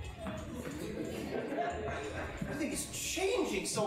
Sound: rock 'n roll music; audience laughing

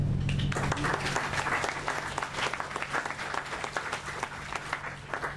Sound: applause

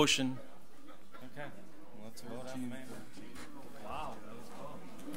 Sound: overlapping chattering

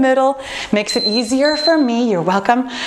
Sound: timer beeping

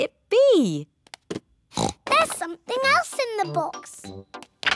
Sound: oinks

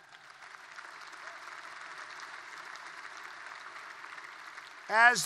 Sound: applause

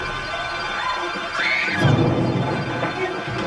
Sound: Courtney Screams

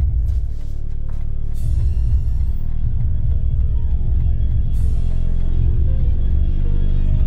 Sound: ominous music; clock ticking

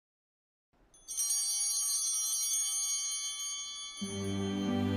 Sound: chimes ringing

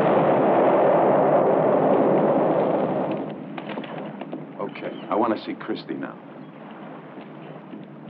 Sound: explosion

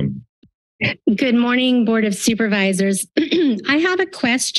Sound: clears throat

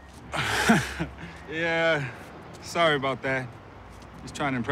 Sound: chuckles

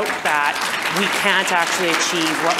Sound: audience applause

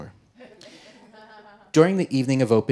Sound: audience laughing

